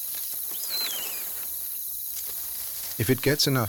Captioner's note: chick chirping